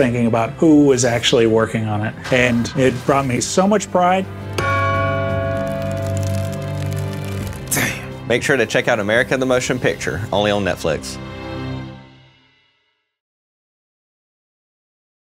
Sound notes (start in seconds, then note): 4.5 bell cracking; 4.6 bell ringing